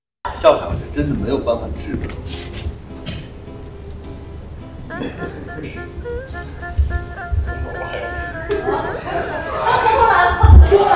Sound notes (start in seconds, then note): 7.2 laughing